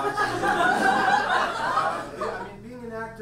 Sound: audience laughs

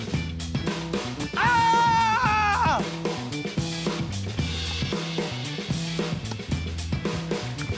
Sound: yells

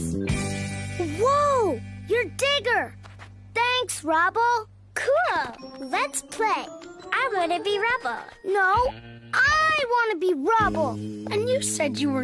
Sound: in an Upset Tone

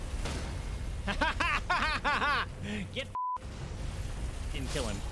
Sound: maniacal laughter

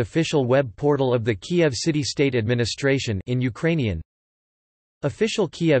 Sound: in Ukrainian

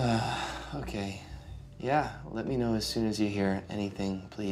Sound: sighing

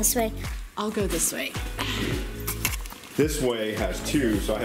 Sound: gasps

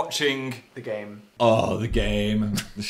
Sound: groans; laughs

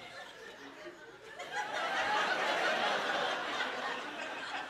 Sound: laughter continues

